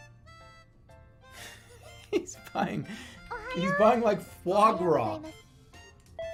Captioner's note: giggling